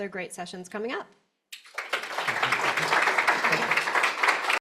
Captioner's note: applause